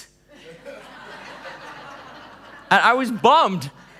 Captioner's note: laughing